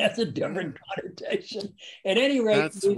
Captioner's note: laughs